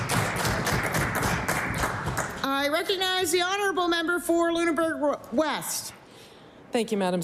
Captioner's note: applause